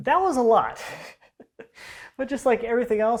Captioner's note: laughing